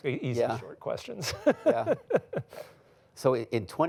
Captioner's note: laughs